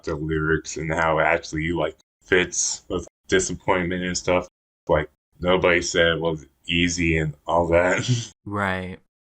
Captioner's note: laughs